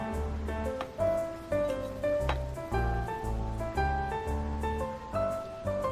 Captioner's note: thumping